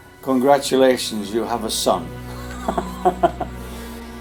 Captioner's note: laughs